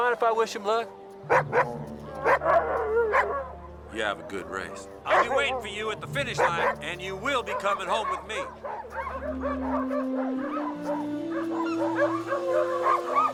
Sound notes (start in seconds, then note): 2.1 Buck barking; 10.1 dogs barking